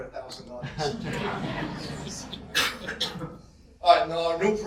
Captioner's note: audience laughter